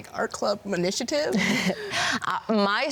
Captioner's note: laughs